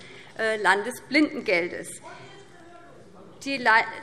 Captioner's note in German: Zuruf